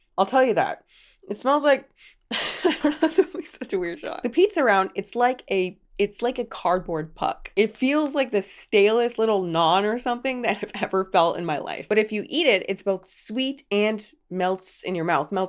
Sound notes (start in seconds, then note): 1.0 sniffs